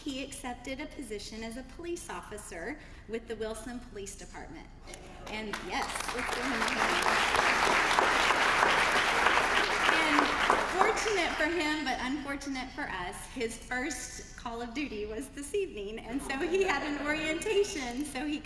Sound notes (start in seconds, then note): 5.4 applause; 9.3 laugh